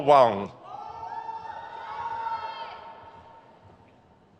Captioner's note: crowd cheers